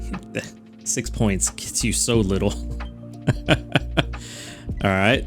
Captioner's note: laughs